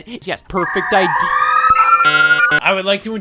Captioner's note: police sirens